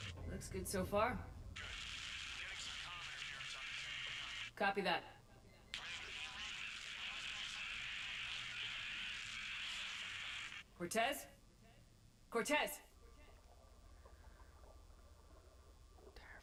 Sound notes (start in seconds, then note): 12.0 static